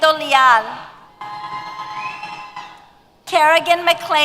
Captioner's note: cheers